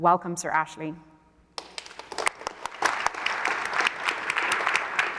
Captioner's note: applause